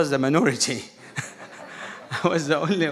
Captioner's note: audience laughing